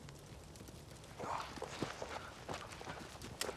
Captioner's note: Jason gasps